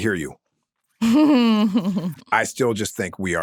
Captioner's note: chuckles